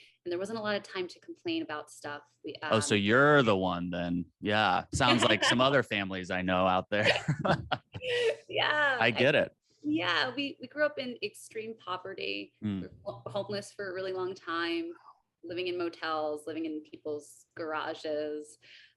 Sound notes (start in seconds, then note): 4.4 AJ laughs; 6.4 laughs